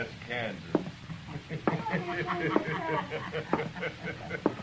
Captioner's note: laughing